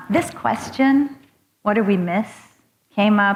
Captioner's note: none